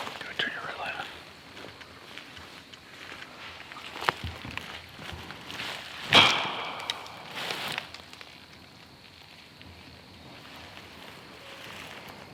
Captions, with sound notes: Go to your left. (knocking)